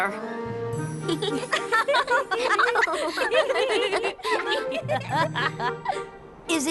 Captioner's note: laughter